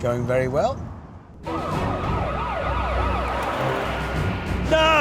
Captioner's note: sirens